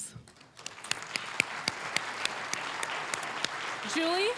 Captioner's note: applause